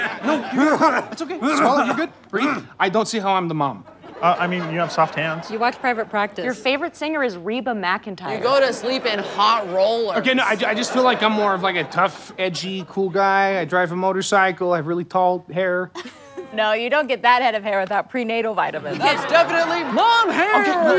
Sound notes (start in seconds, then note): 1.4 coughs profusely; 15.8 scoffs